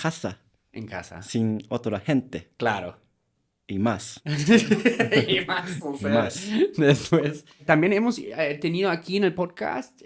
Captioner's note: laughs